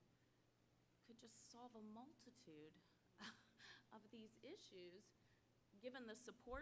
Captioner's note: laugh